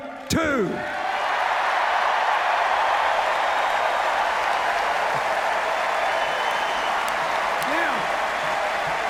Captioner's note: cheers, applause